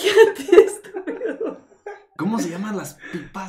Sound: cracking up

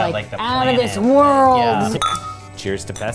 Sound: clink

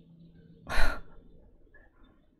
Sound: exhales

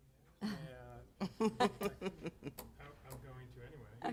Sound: chuckling

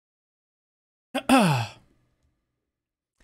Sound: clears throat

